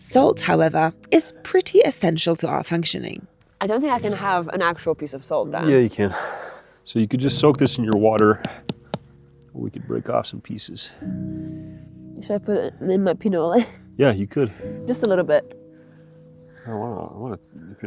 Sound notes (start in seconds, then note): 7.8 stone tapping